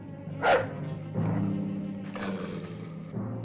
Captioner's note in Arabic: نباح الكلب; هدير الكلب